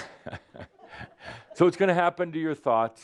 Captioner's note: audience is saying “Ugh!” and chuckles